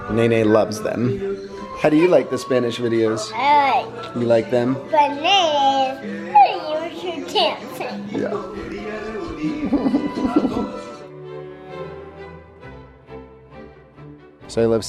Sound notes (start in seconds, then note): 9.4 laughs; 11.8 bright classical music